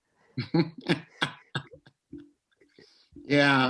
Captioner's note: laughs